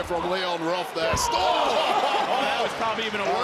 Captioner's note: laughs